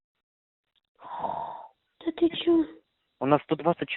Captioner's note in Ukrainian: зітхає